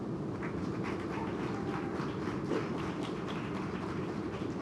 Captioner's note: audience cheers and applauds